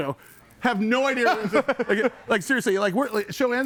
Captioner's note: person laughs